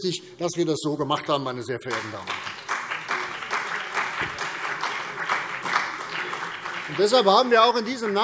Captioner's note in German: Beifall CDU und BÜNDNIS 90/DIE GRÜNEN